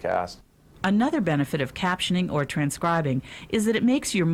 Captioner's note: voiceover